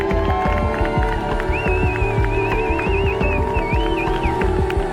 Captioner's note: crowd cheers and applauds